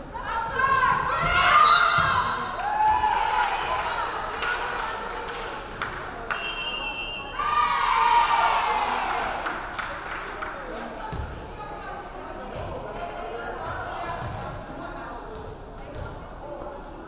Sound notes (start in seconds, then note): 1.5 referee whistling; 2.0 crowd cheering; 6.4 referee whistling